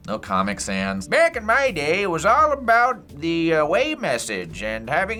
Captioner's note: imitates old man